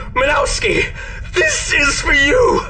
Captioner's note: none